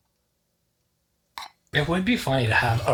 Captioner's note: soft clinking pot